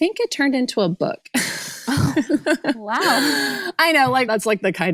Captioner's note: laughs